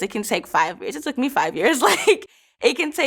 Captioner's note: laughs